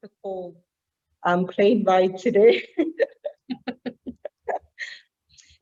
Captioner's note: laughs